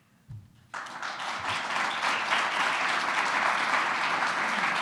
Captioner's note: audience applauding